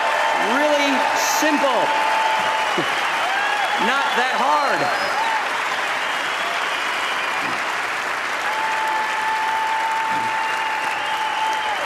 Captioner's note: applause; applause